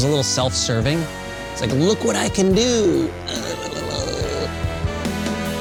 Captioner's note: imitates guitar play